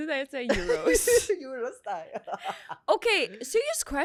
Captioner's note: laughs